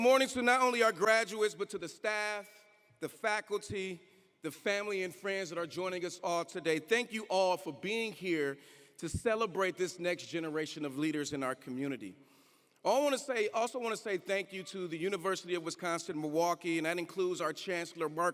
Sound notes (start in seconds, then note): none